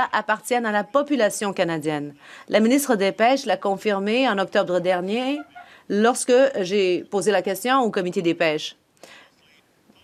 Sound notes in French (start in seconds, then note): 2.3 voix de l'interprète